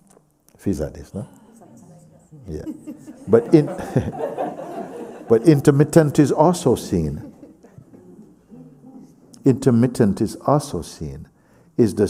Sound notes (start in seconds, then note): 7.9 laughter